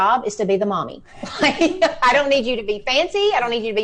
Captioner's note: laughs